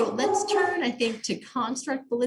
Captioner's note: dogs barking in background; barking continues